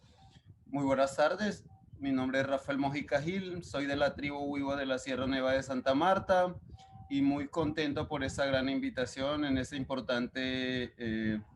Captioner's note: speaking Spanish